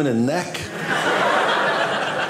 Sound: audience laughing

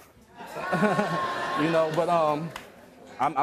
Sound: audience laughs

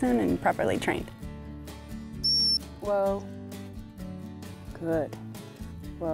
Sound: whistles

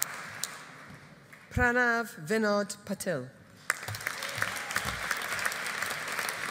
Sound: audience applauding

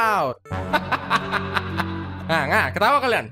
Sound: evil laughs

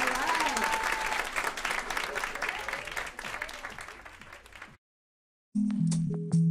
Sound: applause

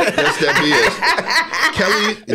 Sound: laughing

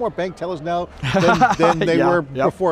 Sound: laughing

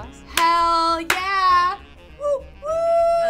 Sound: clapping hands

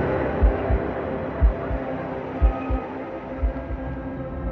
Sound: heart beating

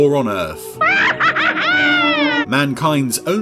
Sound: cackles menacingly

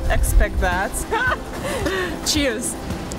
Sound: laughing

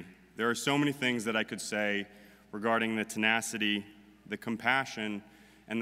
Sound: none

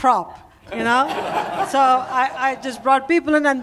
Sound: laughter

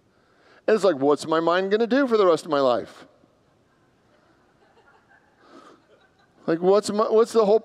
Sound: congregants laugh

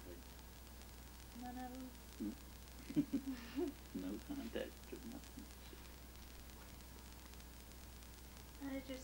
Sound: chuckles

